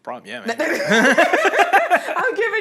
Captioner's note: all laughing